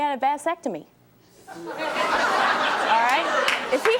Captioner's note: audience laughing